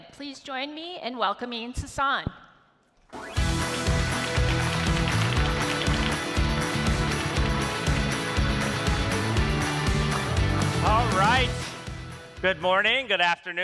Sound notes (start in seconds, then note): 3.2 upbeat music; 3.2 audience applauds